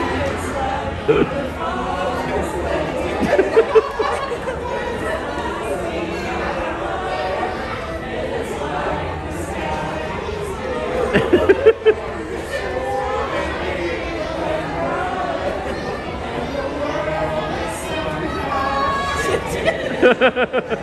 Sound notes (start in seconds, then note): 3.0 laughing; 10.7 laughing; 19.3 laughing